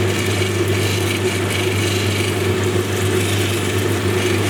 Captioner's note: machine whirring